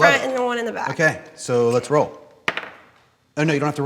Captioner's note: die clacking